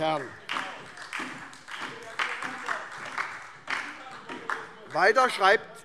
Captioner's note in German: Beifall